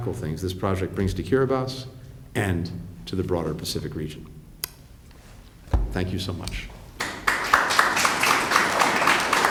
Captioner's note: applause